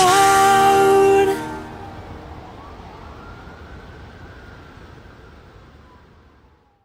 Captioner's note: firetruck alarm